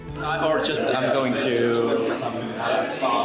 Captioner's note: chatting in English